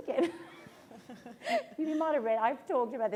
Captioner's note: laughter